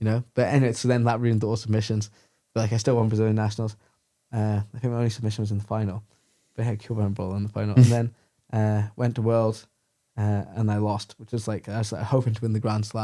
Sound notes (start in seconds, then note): 7.8 laughs